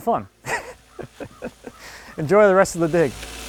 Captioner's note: laughing